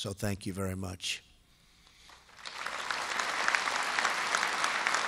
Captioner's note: applause